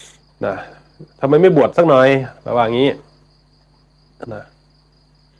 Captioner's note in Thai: เสียงสูดหายใจ